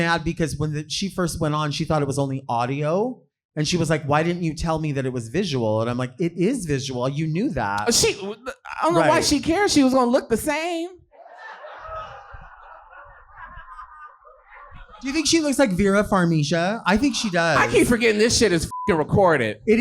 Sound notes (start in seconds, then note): 11.2 audience reacting; 18.7 beep